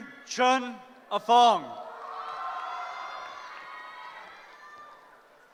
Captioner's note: cheering